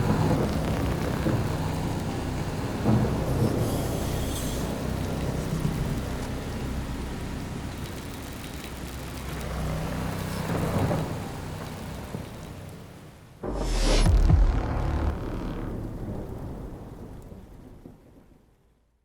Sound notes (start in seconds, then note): 13.4 logo sounds